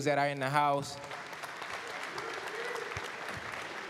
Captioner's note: applause